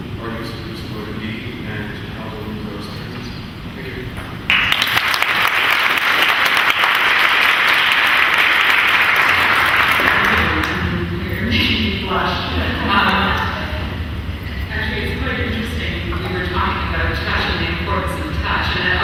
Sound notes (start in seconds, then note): 4.4 clapping